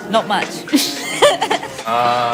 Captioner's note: laughs